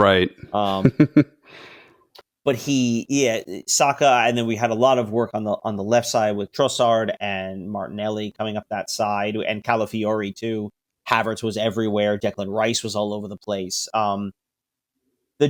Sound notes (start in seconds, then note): 0.6 laughs